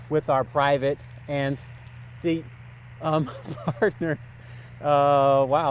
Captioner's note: laughs